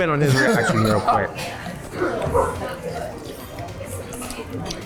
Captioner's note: laughs